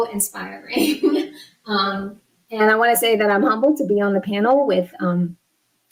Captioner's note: laughs